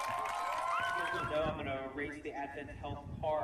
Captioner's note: people cheering and applauding